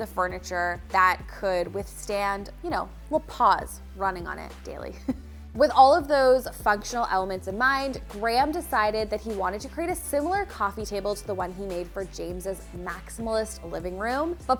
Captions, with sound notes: of furniture that could withstand, you know, all the paws running on it daily. (chuckles) With all of those functional elements in mind, Graham decided that he wanted to create a similar coffee table to the one he made for James' maximalist living room,